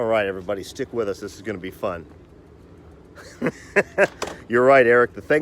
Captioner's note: laughs